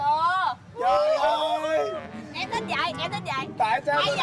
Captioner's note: screams in pain